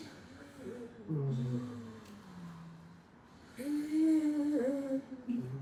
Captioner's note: moaning; moaning